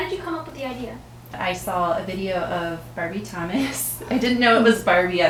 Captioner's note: laughs